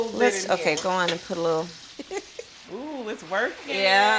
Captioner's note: laughing